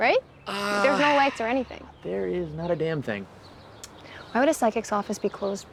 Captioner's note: none